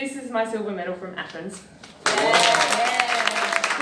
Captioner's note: crowd claps